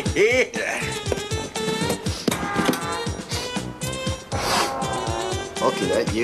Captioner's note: sniffing